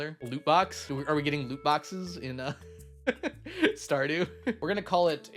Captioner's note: laughs